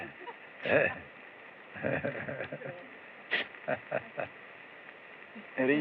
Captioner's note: chuckles